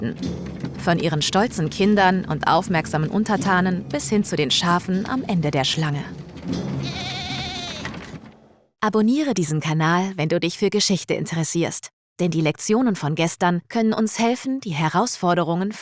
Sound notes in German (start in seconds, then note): 6.8 Blöken